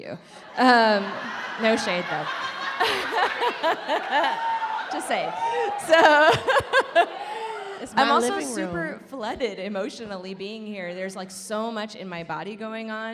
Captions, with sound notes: No shade though. (laughing) Just saying. (laughing) I'm also super flooded emotionally, being here, there's like so much in my body going on,